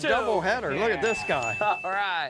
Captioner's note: bell dings